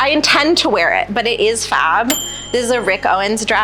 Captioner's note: bell dings